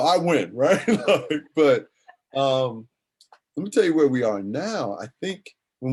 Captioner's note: laughs